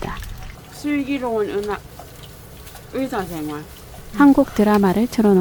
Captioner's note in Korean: 오물오물